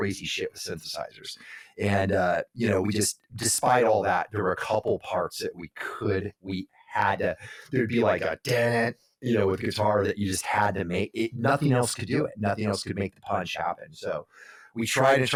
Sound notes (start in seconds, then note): 7.9 mimicking guitar riff